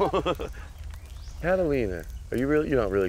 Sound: laughing

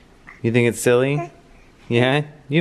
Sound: coos

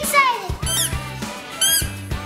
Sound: toy noise; squeaking of the balloon

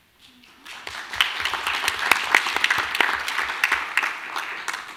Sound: audience applauding

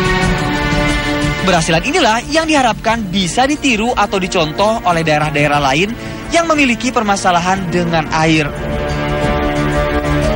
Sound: non-english speech

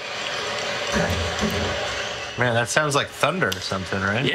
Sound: two thuds echo in distance

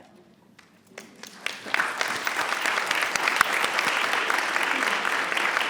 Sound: audience applauds

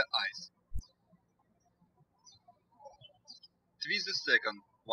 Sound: birds chirping

